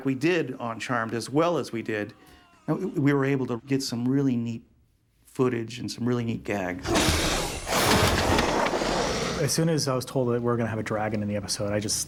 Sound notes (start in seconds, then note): 6.8 growling